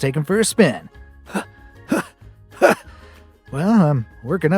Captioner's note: huffs